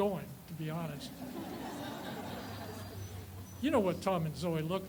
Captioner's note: audience laughs